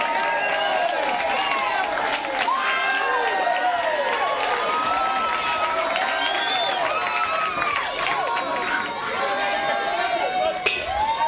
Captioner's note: crowd cheering; bell ringing